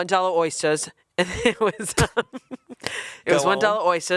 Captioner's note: chuckling